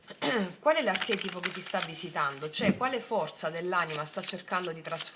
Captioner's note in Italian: schiarire la voce